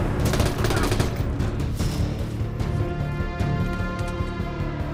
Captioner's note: gunfire clacking